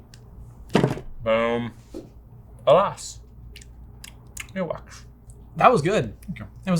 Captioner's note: smack smack smack